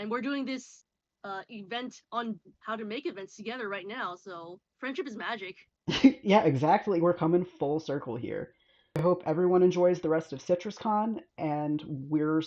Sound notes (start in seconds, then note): 5.9 laughs